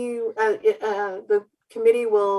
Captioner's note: stuttered speech